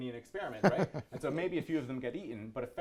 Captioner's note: laughs